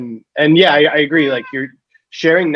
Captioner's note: cat meows